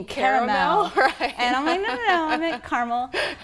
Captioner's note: laughter